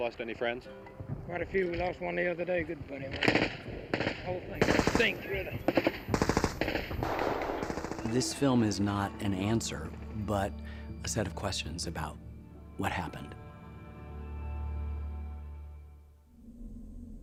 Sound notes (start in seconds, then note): 4.5 rapid gunfire